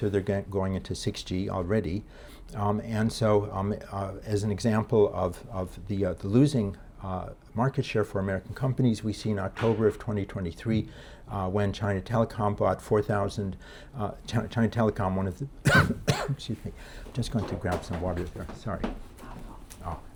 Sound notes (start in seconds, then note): 15.6 man coughing